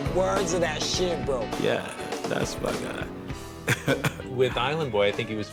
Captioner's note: chuckles